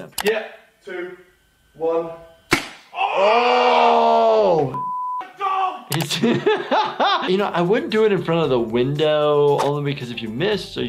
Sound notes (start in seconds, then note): 2.5 paintball gun fires; 2.9 screaming; 4.7 beep; 6.0 laughing